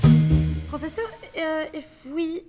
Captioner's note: with French accent